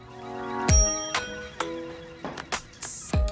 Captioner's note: gentle music; bell chimes; gentle music continues